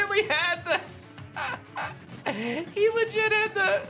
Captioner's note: chuckles